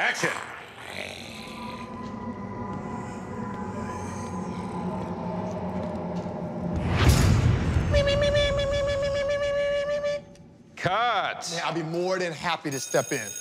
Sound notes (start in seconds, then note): 0.0 growling; 1.7 eerie music; 7.5 high-pitched voice